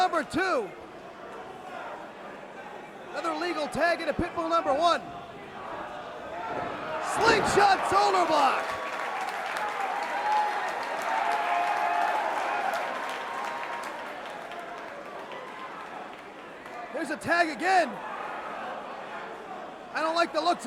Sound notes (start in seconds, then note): 9.5 crowd cheering; 12.1 crowd chatter